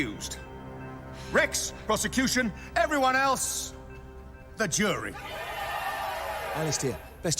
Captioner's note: crowd cheering